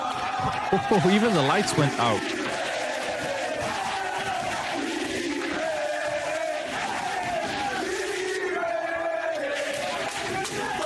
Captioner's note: cheering